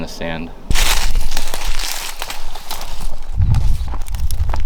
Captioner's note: brush crinkles